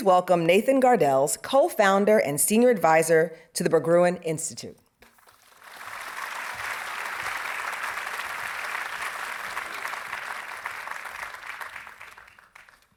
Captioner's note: audience applauding